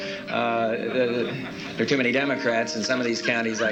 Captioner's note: scattered laughter